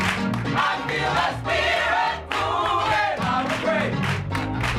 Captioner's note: full choir; lower voices